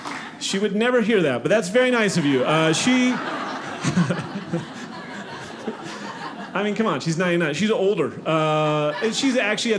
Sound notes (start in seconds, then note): 2.1 audience laughing